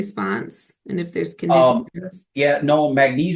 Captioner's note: faintly speaking